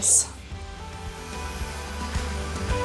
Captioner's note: blower blows; upbeat music